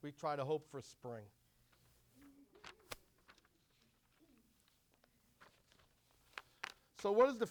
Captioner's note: papers shuffling